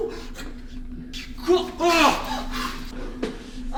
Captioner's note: surprised cry